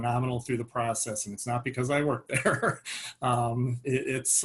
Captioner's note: laughs